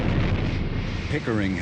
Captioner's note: rocket whooshing